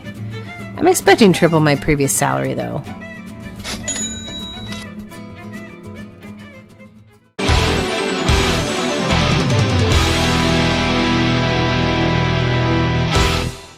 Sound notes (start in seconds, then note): 3.6 cha-ching